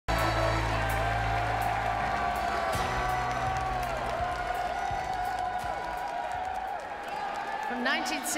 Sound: applauses and cheers

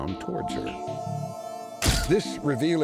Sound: camera shutter sound

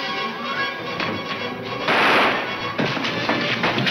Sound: guns firing

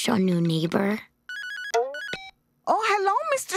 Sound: ringing

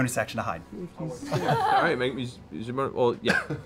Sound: laughing

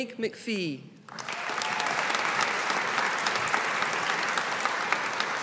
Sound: audience applauding

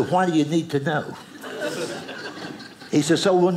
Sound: audience laughing

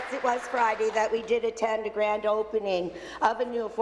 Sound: applause

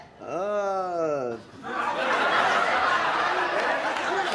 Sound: audience laughs, claps

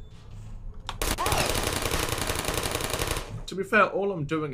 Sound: gunfire

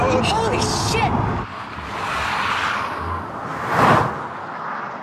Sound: tires squeal

